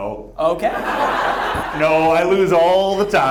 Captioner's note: audience laughs